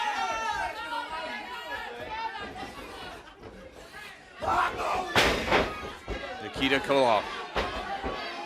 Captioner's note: crowd cheering